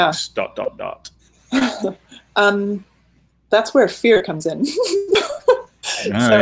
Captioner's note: laughing